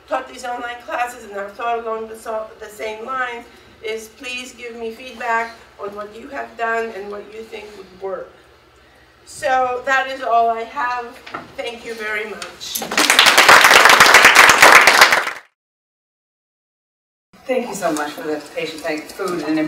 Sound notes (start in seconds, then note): 12.8 audience clapping